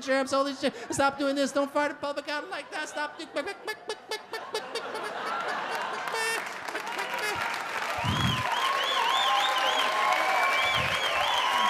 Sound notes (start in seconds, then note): 6.2 audience laugh; 7.6 audience applaud